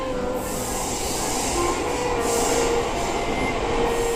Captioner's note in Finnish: ohikiitävän junan ääni